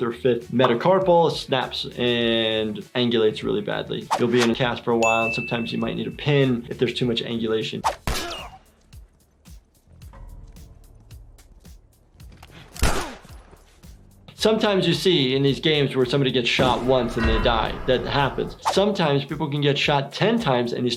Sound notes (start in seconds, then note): 10.5 gunshot